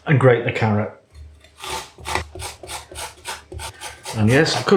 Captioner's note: grate grate grate grate